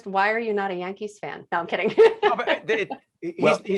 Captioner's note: laughing